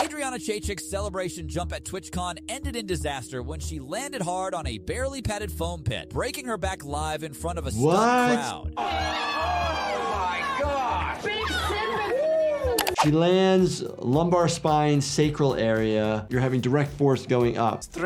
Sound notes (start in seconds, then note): 8.7 crowd cheers; 9.7 yells